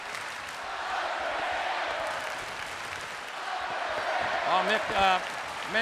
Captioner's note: crowd chants "Undertaker"